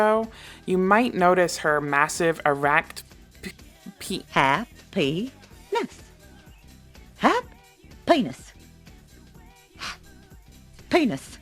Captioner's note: gasp